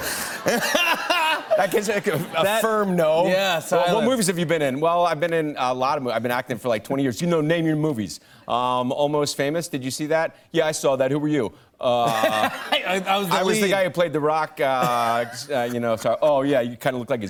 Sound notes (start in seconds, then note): 12.0 laughs